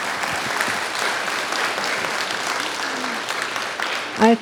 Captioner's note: audience applauds